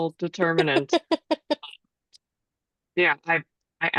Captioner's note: laughter